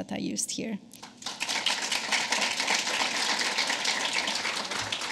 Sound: applause

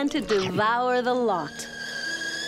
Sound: kettle whistles

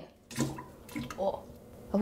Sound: water splashes

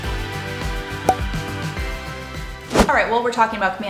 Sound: bubble popping; air whooshing

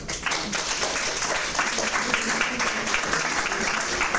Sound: applause

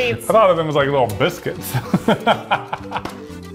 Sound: laughing; lighthearted music

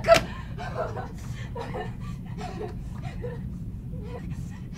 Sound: continues hyperventilating

